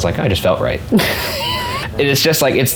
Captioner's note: laughing